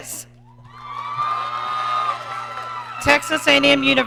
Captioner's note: audience cheering